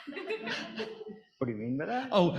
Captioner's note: audience laughing